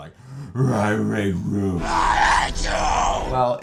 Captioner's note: growly